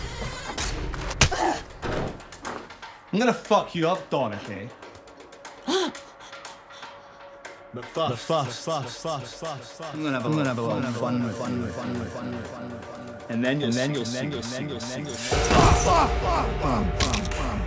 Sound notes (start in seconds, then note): 0.1 door squeaking; 0.9 hand smacking; 1.3 Dorothy groans; 5.6 Dorothy gasping; 15.4 body thudding; 15.4 dramatic music; 16.9 bones cracking; 17.3 Johnny groaning